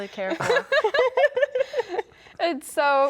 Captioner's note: all laugh